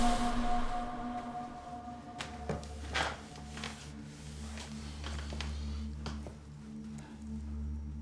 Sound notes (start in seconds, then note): 0.0 pensive music; 3.1 chair creaking